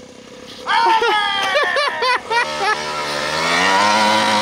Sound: yells

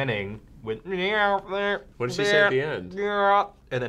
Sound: imitates reversed speech

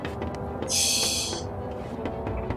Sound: tee-heeing

